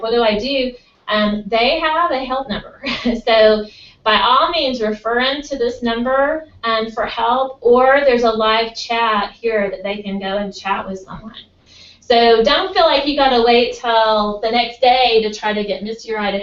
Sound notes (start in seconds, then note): 2.7 laugh